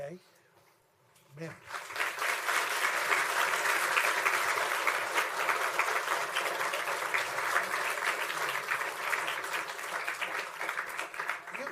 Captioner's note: applause